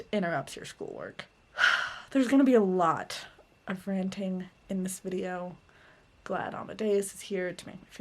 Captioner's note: sigh